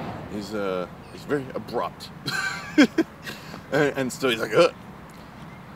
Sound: laugh

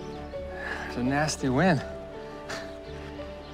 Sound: chuckles

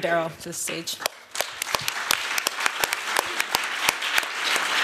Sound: applause

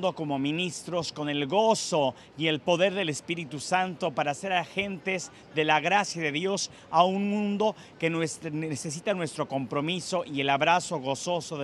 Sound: speaking spanish

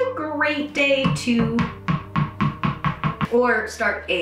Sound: dog ball bouncing

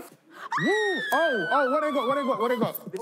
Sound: screaming

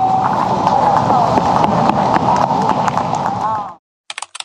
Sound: applause

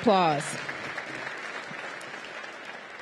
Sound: applause

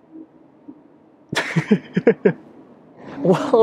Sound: laughs

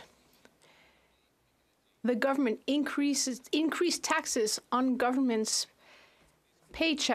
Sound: speaking French

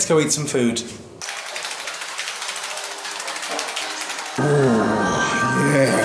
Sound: pitter patter of feetsies

